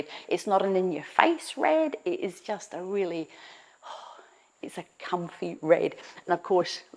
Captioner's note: exhales